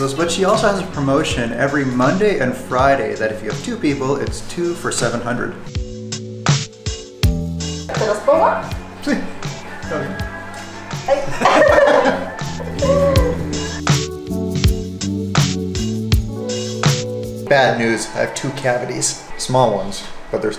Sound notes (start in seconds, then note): 5.8 upbeat music; 7.9 speaking in foreign language; 11.0 both laughing; 12.9 upbeat music